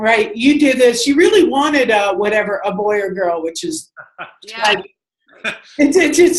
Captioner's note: laughter